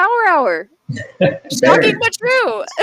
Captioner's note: laughs